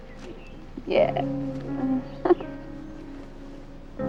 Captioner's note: giggling